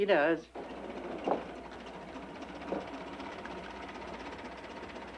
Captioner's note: engine rumbling